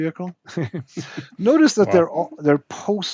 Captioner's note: laughs